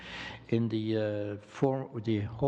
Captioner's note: speaking French